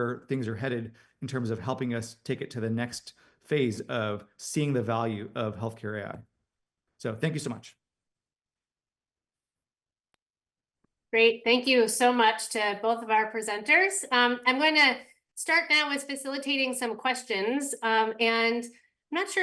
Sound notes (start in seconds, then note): 8.4 pause